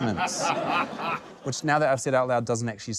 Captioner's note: laughter